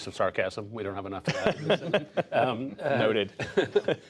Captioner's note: laughter